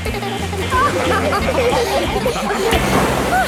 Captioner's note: giggles; laughing